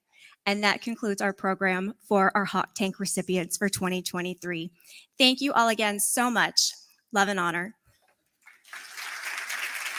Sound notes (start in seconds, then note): 8.4 applause